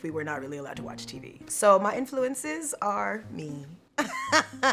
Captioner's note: laughing